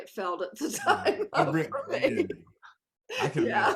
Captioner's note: laughs